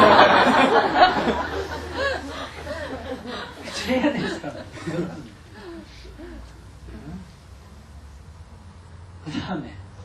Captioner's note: audience laughter